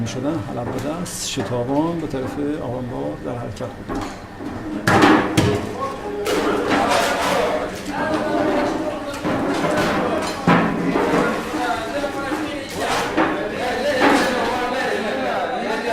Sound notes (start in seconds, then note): 4.8 sound of people chattering and using tin cans to fetch water from the cistern